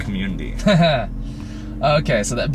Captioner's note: laughs